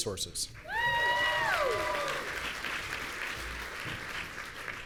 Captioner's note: audience cheering